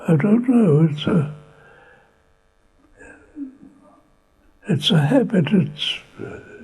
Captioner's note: pauses for 3 seconds